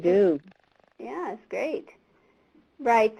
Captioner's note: voiceover